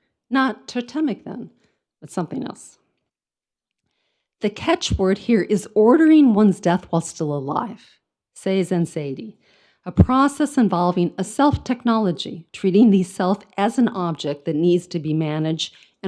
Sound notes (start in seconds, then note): 8.1 speaks in foreign language